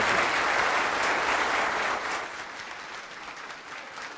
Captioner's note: audience applauds